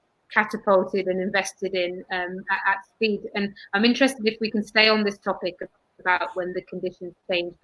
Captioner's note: erm